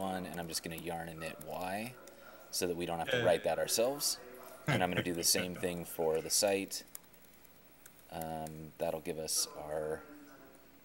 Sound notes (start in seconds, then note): 4.6 chuckling